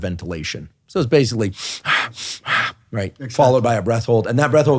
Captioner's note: panting